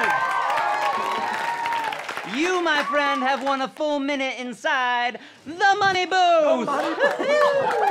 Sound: cheering

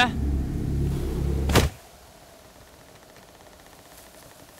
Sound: loud thud

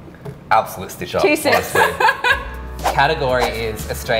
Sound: laughing

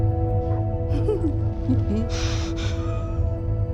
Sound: laughs

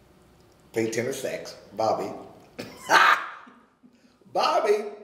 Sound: laughing

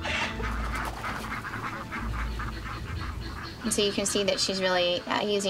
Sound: birds squawking

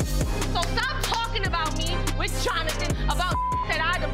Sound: beep

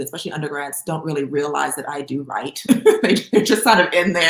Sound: laughs

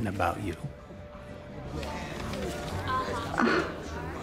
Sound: sighs

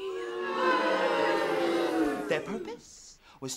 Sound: crowd boos

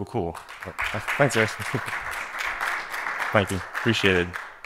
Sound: applause

